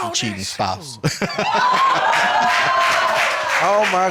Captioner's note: laughs; audience cheering